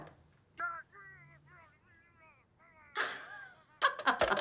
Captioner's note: muffled shouting; alison laughs